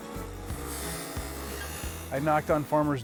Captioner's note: saw whirring